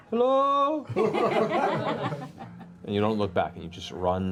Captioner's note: laughter